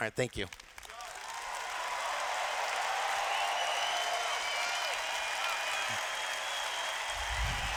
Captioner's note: cheers